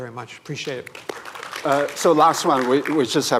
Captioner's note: applause